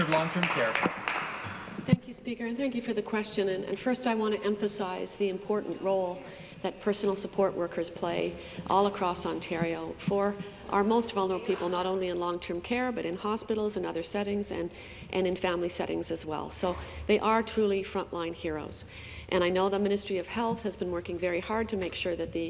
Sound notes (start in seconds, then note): 2.3 applause